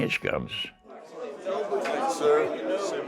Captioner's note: group chattering